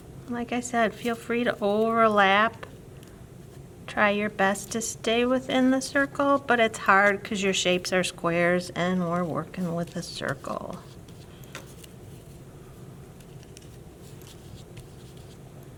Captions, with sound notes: Like I said, feel free to overlap. Try your best to stay within the circle but it's hard because your shapes are squares and we're working with a circle. [brushing] [brushing]